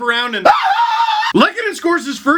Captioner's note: wild screaming